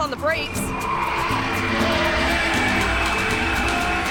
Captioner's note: tires screeching